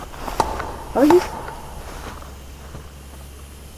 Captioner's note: knocking